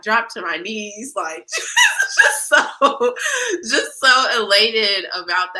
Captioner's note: laughter